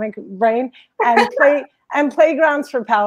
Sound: laughs

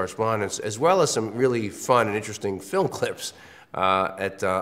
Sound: laugh

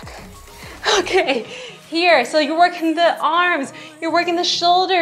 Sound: exhales heavily

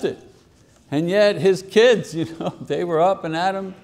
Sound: chuckles

